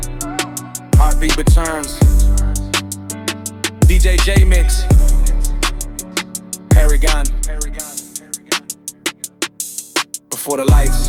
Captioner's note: heartbeat returns